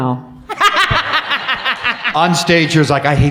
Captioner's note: laughs